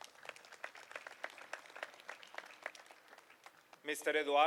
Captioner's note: applause